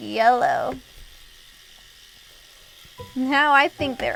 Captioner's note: brushing